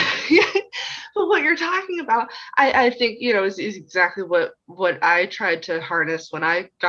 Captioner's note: laughs